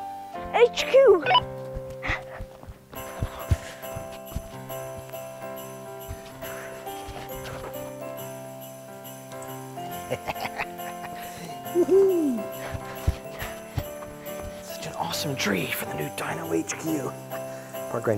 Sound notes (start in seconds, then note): 2.9 merry music; 9.9 chuckles